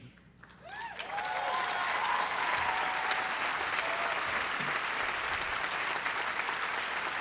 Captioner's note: applause